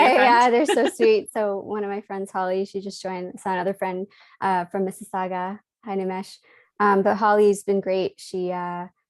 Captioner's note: laughs